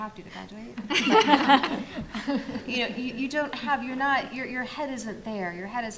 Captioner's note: panel laughs